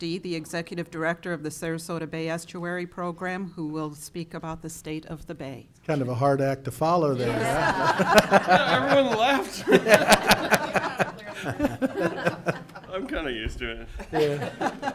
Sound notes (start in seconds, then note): 7.2 audience laughing